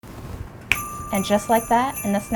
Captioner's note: snapping fingers